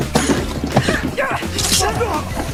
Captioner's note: grunting continues